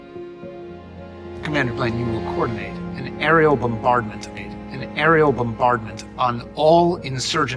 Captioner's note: voiceover